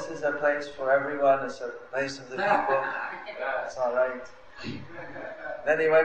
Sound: laughter

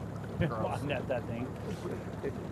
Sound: chuckling

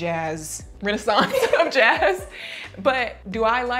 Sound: laughing

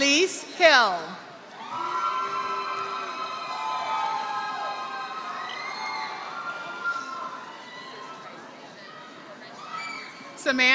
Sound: applause

